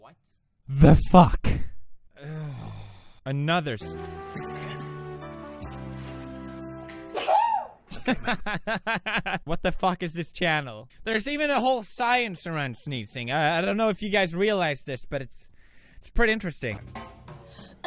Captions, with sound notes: ...what... THE FUCK? Another s- *sneeze* *Pewds' laughs* what the fuck is this channel? there's even a whole science around sneezing D: I don't know if you guys realize this but it's - it's pretty interesting